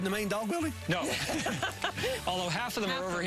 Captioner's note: laughing